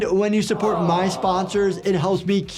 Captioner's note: background awes